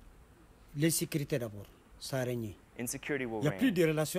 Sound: speaks in a foreign language; speaks in a foreign language

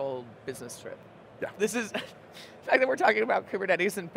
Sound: chuckles

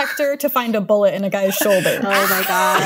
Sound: laughter

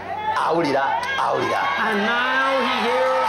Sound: audience cheering

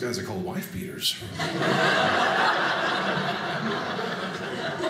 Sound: audience laughing

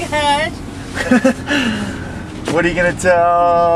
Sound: laughs

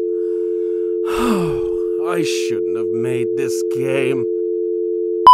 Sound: sigh

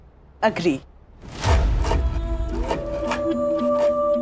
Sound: knife scraping

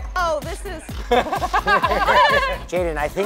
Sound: laughing

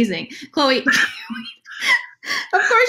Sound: laughs

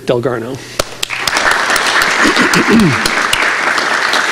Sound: audience applauding

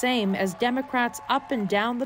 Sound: cheers and Applause

